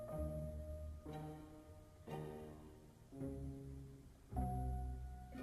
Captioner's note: none